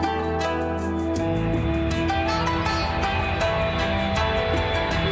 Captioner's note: plane engine roaring